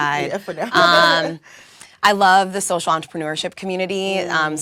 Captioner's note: laugh